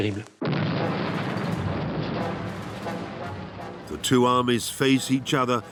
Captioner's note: explosion booms